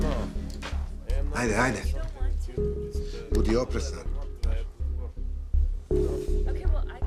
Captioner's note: speaking serbian